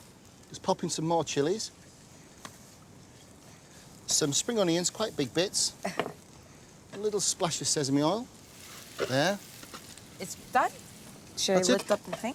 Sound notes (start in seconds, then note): 5.8 chuckles